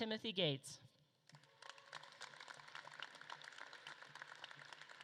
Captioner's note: audience claps